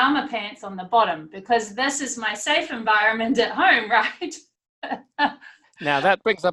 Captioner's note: laughing